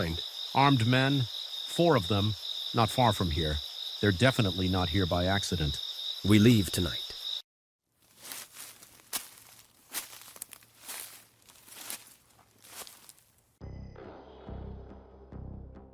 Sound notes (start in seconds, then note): 7.9 leaves crunching; 13.6 tense music